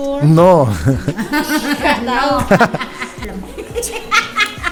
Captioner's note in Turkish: kahkaha